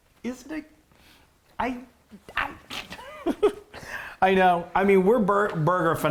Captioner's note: laughing